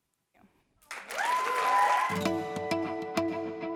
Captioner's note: applause